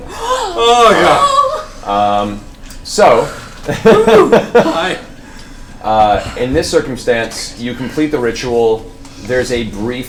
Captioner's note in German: lacht